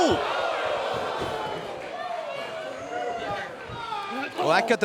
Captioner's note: crowd cheering